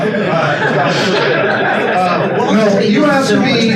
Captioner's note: attendees laugh